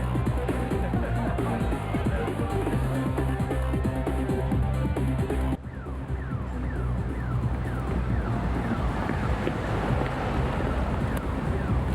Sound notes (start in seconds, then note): 5.6 car alarm blaring